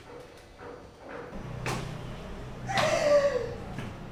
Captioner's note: Magic chokes